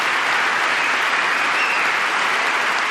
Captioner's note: applause